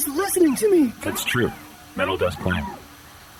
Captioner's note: happily